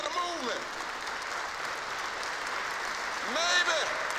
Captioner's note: applause